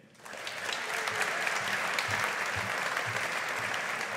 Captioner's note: audience applauding